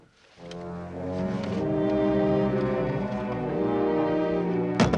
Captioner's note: line buzzing